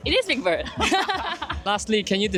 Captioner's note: laughter